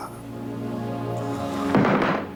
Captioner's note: soft moan